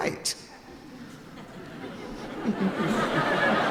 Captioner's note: laughing